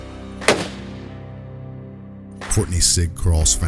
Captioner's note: gunshot